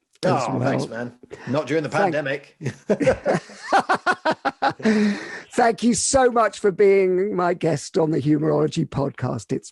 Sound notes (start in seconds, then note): 2.6 laughing